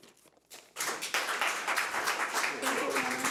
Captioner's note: audience applauds